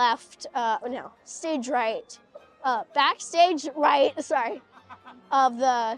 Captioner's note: laughter